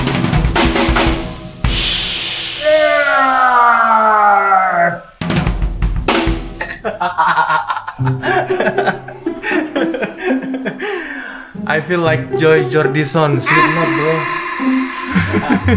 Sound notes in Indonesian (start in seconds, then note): 7.1 tertawa; 11.0 terkesiap